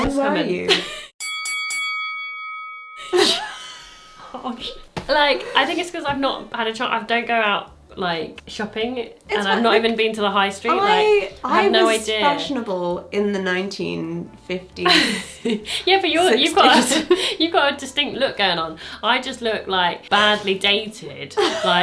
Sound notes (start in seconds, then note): 1.2 bell ringing; 3.0 laughing